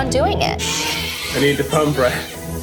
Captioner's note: baby crying